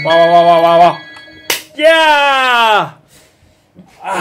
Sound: clap

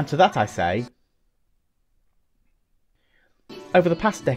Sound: silence

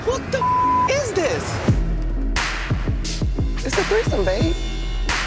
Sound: beeping

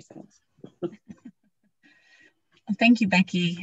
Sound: chuckling

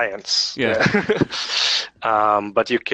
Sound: laughs

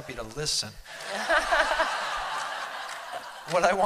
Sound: laughter

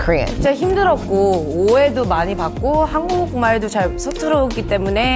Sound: speaking Korean

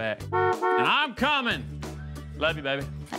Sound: horn honks

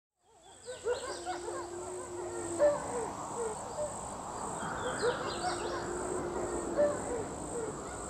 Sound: wolves barking and howling

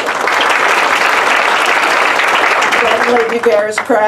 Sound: applause

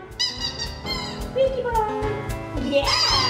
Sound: squeaky noise

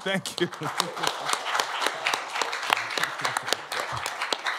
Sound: applause

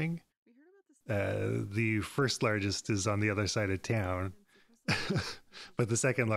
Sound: laughs

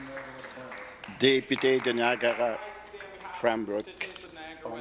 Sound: applause

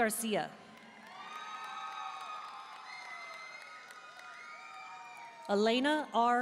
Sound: audience cheering and applauding

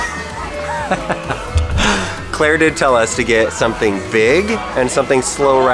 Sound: laughs

